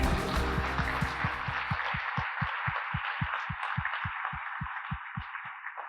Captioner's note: applause